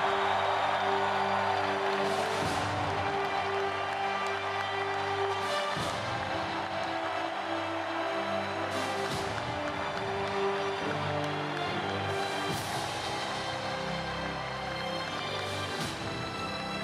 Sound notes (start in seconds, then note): 3.0 cheering and Applause